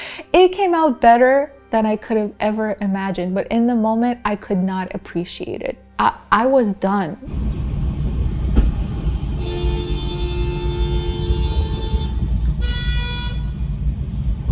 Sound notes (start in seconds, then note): 8.1 car honking